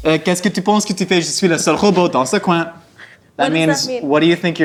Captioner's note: speaking in foreign language